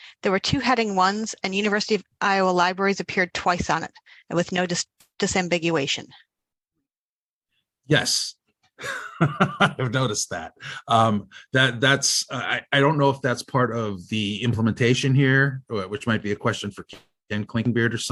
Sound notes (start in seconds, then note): 8.8 chuckles